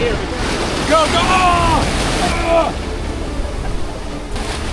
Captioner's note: exclaiming